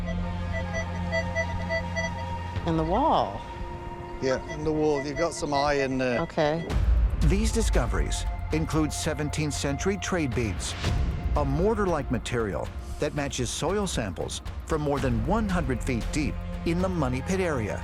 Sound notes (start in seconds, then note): 1.8 beeping